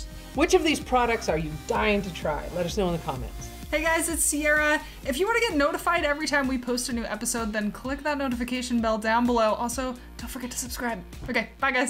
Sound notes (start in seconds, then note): 9.8 whispers